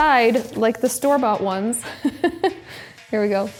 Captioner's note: laughs